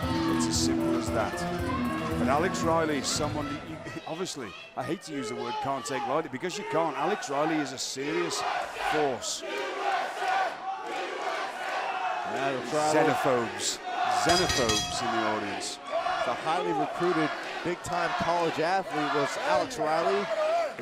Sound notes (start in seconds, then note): 8.7 crowd cheering